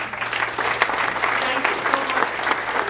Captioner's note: applause